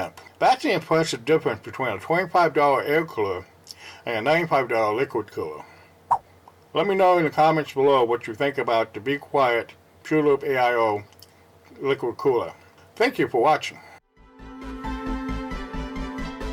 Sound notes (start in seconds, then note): 5.9 swipe Sound; 13.9 ♫ Cinematic Music ♫